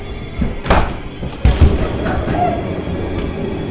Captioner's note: Sarah pounding